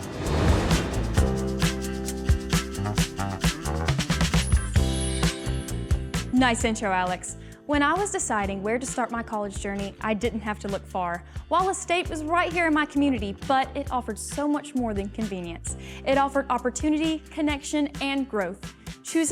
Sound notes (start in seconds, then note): 0.0 upbeat music; 4.8 wand sparkling